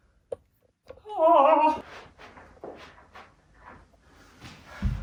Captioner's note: woman yells